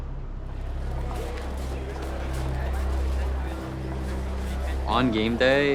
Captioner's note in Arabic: ثرثرة أشخاص